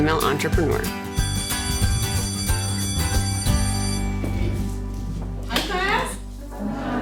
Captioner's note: upbeat music; bell ringing